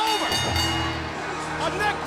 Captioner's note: bell ringing